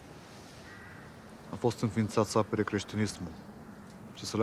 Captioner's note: speaking romanian